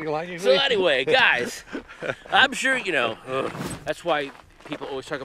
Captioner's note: groaning